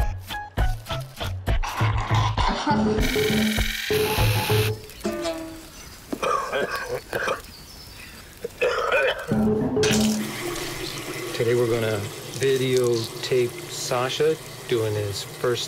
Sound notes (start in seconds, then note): 0.1 woman laughs; 3.4 man coughs